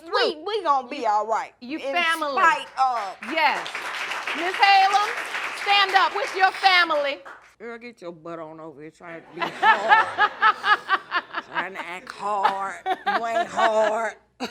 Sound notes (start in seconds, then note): 9.2 laughing; 13.7 chuckles